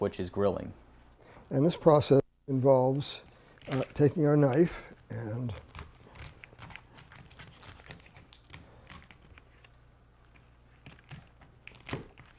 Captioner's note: sounds of cutting